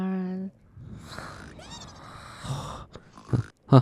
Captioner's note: snores